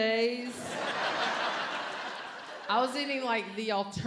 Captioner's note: audience laughs